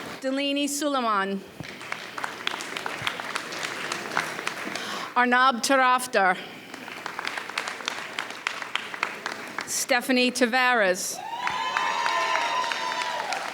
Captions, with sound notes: Dalini Suliman. (audience applauds) Arnab Tarafder. (audience applauds) Stephanie Tavares. (audience cheers)